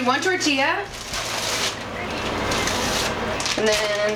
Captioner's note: plastic crinkling